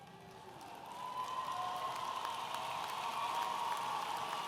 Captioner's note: audience applauding